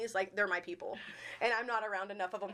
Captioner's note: chuckling